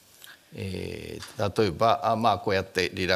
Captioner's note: speaking japanese